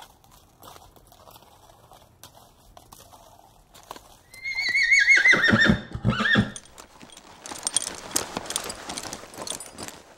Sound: sounds of horse tackle, a horse neighs, and remounting

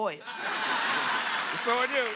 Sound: laughter

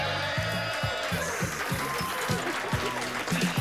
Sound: cheers and applause

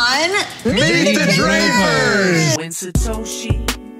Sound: in Unison

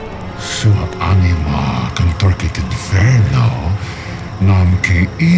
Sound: demon speaks in foreign language

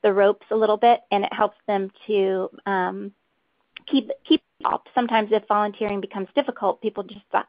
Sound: audio interference

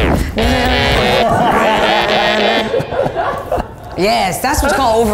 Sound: laughs

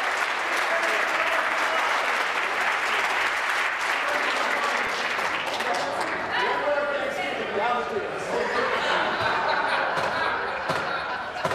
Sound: applause

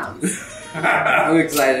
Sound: laughs

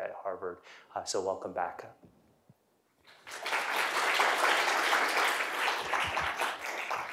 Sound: applause

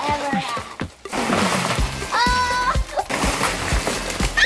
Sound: kids screaming

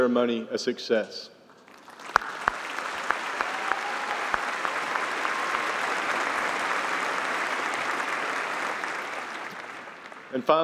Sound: applause

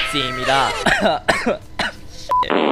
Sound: coughs

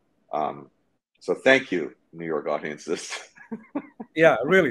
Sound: chucking

